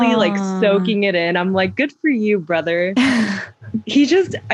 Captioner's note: laughter